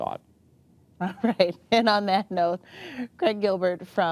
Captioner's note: chuckling